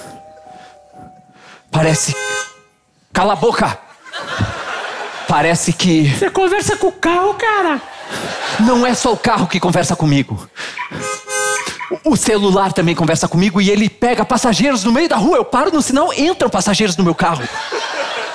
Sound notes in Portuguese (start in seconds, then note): 1.8 buzina; 11.0 buzina